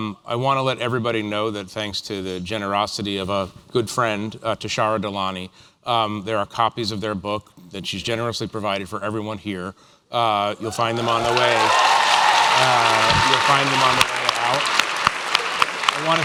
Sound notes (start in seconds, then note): 10.7 applause